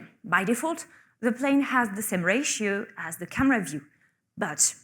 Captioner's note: none